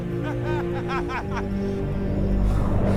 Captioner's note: laughs